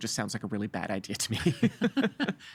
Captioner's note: laughing